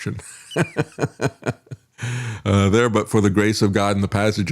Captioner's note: laughing